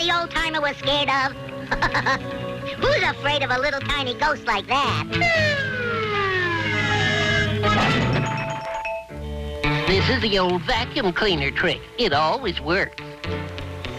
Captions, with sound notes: - Is that what the old timer was scared of? (laughing) Who's afraid of a little tiny ghost like that? (ghost pounding) - This is the old vacuum cleaner trick. It always works.